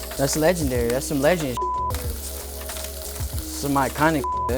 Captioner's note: beep